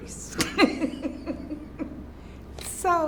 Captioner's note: laughs